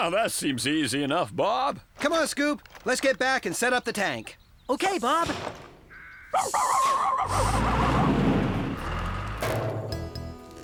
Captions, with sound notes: WELL, THAT SEEMS EASY ENOUGH, BOB! COME ON, SCOOP, LET'S GET BACK AND SET UP THE TANK. OK, BOB! ( Barking ) ( Bang! )